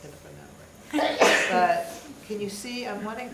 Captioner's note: audience member sneezes